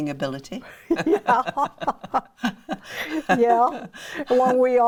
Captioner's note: laughs